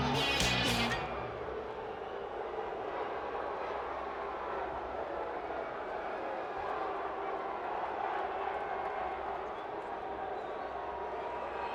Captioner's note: crowd chatter